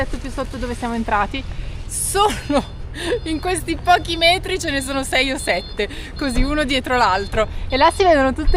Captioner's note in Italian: risate